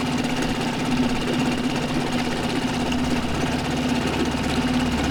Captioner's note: boat motor rumbling